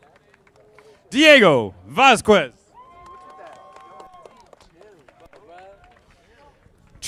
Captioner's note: audience applauding; audience applauding